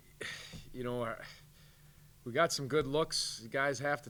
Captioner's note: sighs